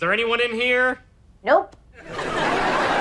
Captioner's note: voiceover; audience laughter